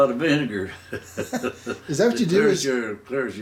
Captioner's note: both laughing